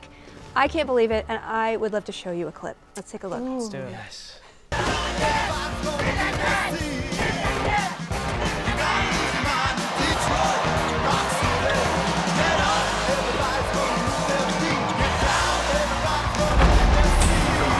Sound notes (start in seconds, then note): 5.2 people screaming; 5.2 upbeat rock music